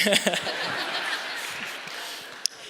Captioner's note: all Laughing